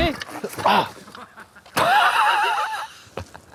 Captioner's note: laughing